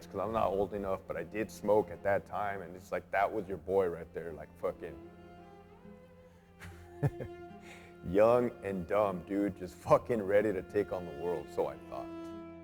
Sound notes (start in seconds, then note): 6.6 chuckles